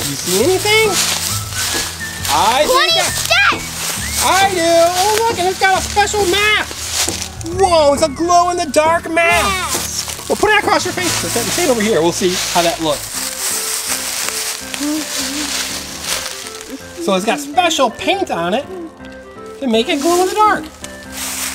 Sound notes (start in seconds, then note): 14.7 Assistant hums